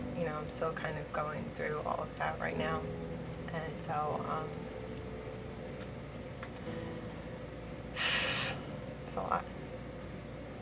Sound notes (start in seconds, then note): 7.9 deep sigh